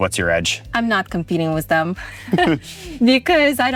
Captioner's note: chuckles